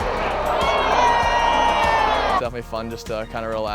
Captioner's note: audience cheering